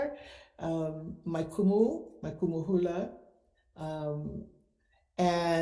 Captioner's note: speaks foreign language